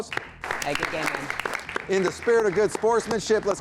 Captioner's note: group applauding